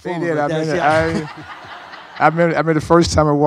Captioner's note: audience laughs